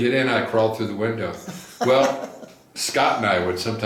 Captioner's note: laughs